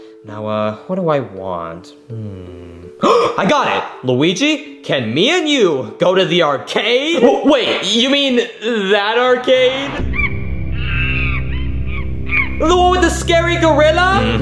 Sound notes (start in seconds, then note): 2.2 gasps; 10.3 ominous music; 10.6 monkey squealing